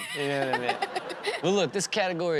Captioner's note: Chanel and audience laughing